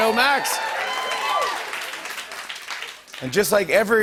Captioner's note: cheers and applause